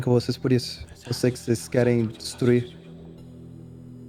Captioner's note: whispers